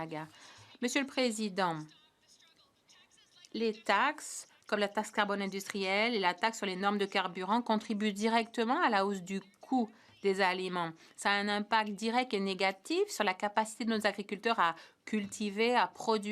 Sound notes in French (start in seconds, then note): 4.0 voix de l'interprète